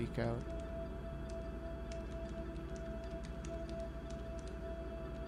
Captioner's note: keyboard clacking